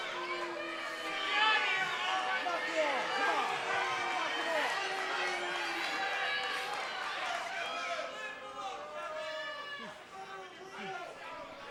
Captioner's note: cheers and applause